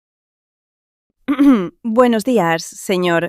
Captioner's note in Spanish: carraspeo